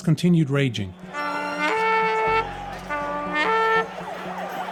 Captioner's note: horn blowing